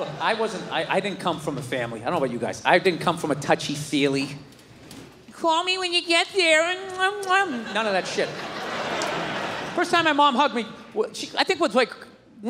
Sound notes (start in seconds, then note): 6.5 imitates kissing sounds